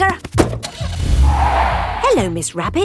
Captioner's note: car starting; tires screeching